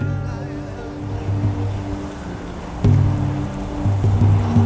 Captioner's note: wind blowing